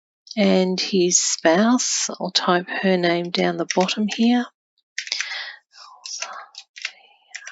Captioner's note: whispers to self